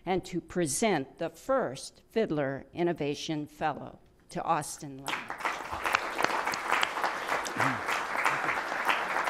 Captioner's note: applause